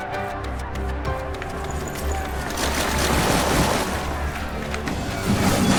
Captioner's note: applause